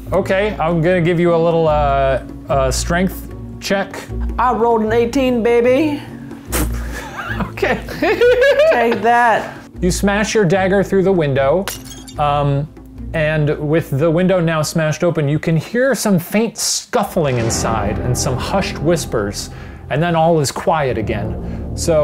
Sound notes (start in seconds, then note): 6.8 laughter